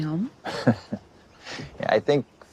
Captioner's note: laughs